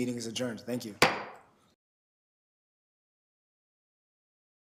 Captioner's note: gavel slams